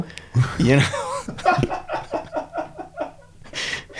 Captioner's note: laughing